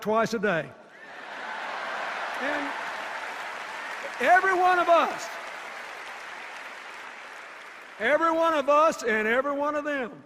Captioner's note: applause and cheers